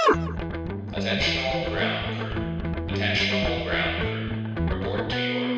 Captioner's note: loudspeaker Voice